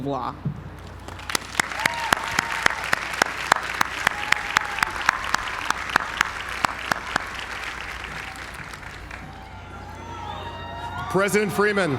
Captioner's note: applause